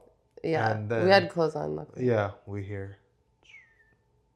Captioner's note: whispers